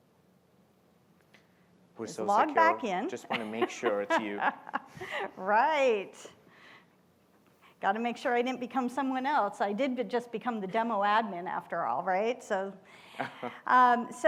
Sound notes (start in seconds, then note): 6.5 laughs